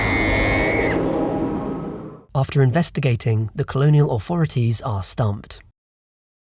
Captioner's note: screams